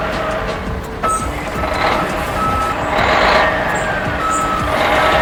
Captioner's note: machinery beeping